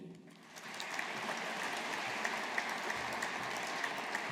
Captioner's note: audience applauding